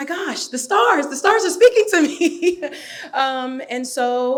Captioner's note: laughs